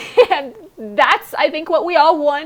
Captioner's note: laughs